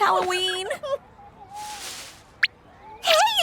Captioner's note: gasps